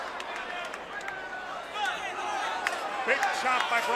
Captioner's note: crowd chatter